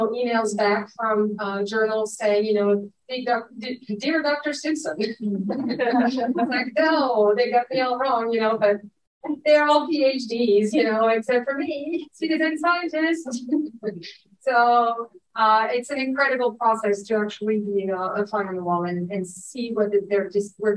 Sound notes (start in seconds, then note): 5.5 audience chuckling